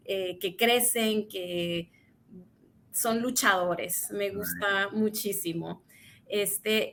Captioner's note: speaks in Spanish